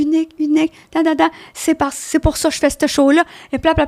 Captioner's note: in french